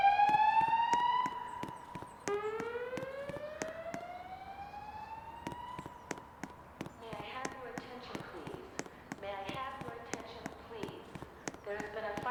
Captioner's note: fire alarms sounding